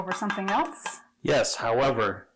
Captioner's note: glass jar and spoon rattling